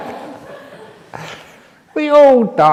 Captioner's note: laughter